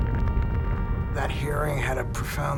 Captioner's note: explosion roars